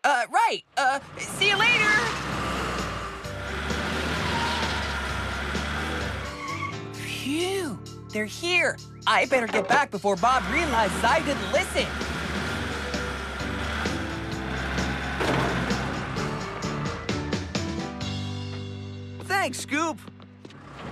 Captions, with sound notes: UH, RIGHT. UH...SEE YOU LATER. ( Rumbling ) ( Tires Screech ) PHEW. THEY'RE HERE. I BETTER GET BACK BEFORE BOB REALIZES I DIDN'T LISTEN. ( Rumbling ) THANKS, SCOOP.